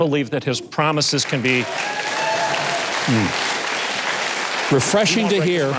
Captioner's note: audience applause